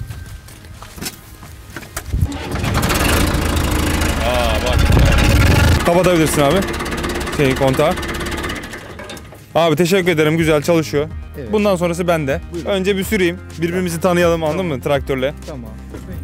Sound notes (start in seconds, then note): 2.2 engine starts; 4.0 engine roars